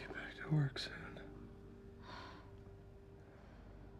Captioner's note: sighs